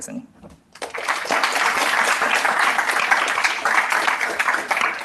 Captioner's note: applause